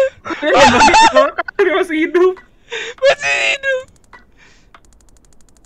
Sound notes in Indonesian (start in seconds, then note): 0.0 ngakak sambil nafas; 0.3 ngakak sedikit; 3.0 agak ngakak